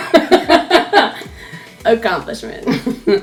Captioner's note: laughing